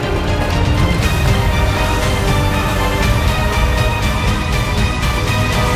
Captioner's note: electricity buzzing